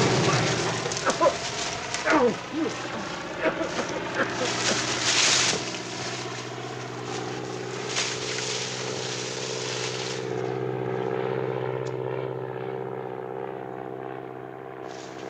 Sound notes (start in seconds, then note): 2.0 man coughing; 8.3 corn stalks rustling